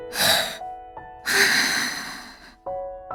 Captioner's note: exhale; inhale